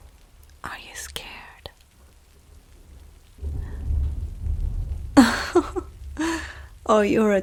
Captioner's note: fabric Rustle